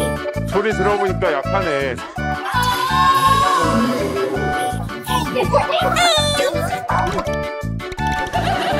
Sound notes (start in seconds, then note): 2.4 distant screaming; 4.5 laughing